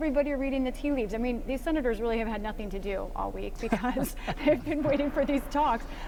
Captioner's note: laughter